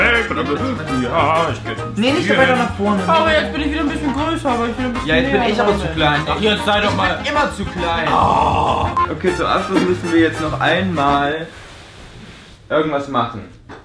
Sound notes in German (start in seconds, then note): 8.0 stöhnt